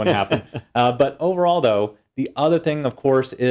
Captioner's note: laugh